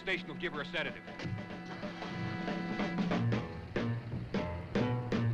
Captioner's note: dramatic music; engine rumbling